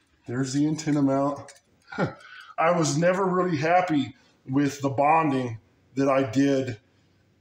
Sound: chuckles

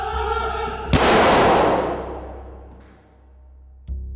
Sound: gun fires

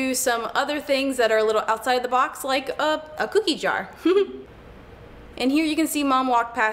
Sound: chuckles

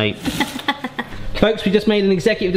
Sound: laughing

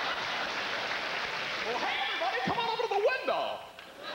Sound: laughter

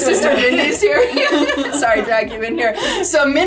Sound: laughs

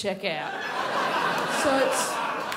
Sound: crowd laughs

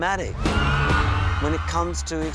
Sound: cheering

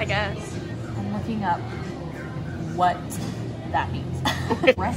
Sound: laughs

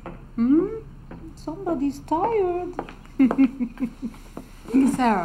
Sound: chuckles

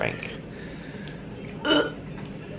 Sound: gags

